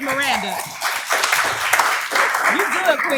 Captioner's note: applause